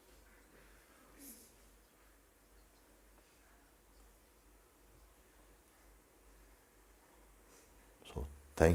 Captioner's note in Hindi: मौन